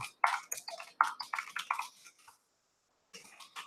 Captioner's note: typing